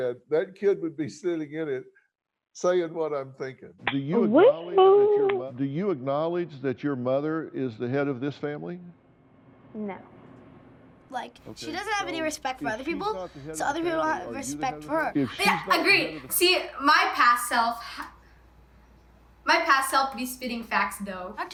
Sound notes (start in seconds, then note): 3.9 claps